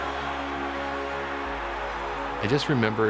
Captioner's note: crowd cheering